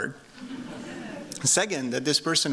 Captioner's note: laughter